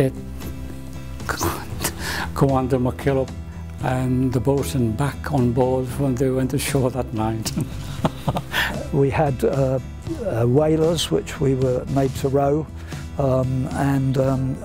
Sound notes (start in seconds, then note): 7.6 laughs